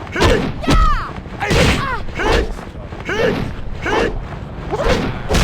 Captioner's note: man grunting